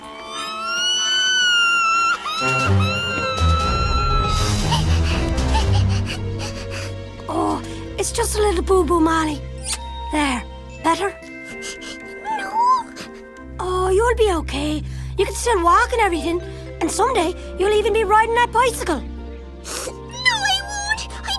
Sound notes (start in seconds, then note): 0.1 injured wailing; 4.9 sobbing; 11.4 sniffle